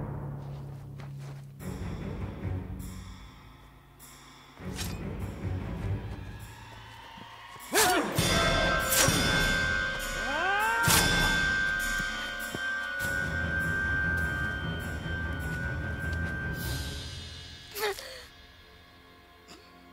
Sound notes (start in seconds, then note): 7.7 grunts